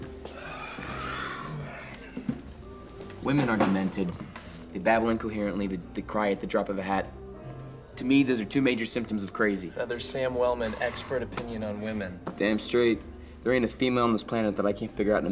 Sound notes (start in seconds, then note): 2.1 sighing